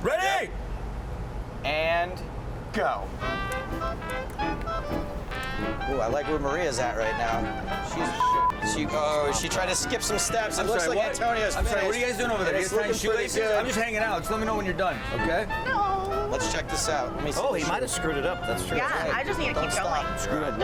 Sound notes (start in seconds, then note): 3.3 lively jazz music; 8.1 sensor beeping